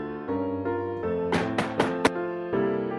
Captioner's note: knock